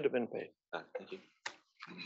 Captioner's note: cough